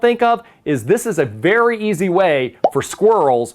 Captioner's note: thought bubble pops